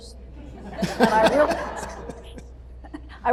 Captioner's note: laughter